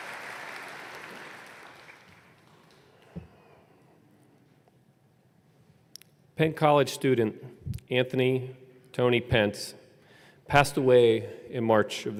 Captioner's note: applause